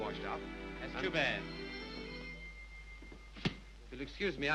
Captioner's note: distant bell rings